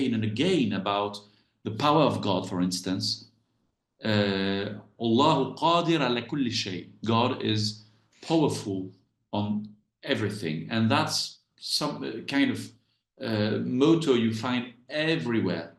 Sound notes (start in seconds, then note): 5.1 speaks Arabic